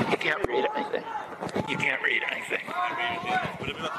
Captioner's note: laughter